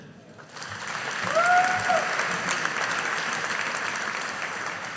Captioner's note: audience applauding